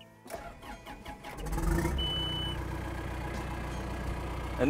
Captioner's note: engine starting